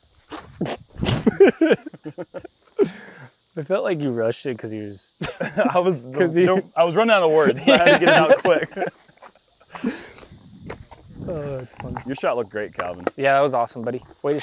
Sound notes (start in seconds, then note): 1.1 laughter; 7.4 laughs